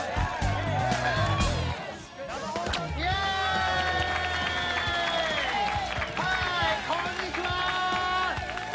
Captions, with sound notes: [cheers and applause] - Hey. Konnichiwa!